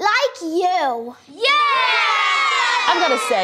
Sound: shouts

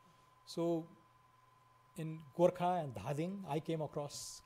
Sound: foreign language

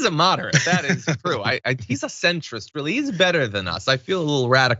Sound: laugh

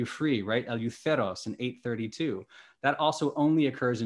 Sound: speaking greek

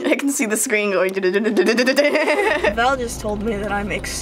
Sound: laughing

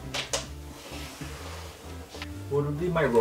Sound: floor squeaking

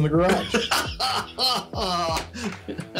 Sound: laughs

